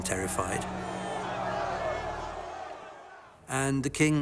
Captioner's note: rioters shouting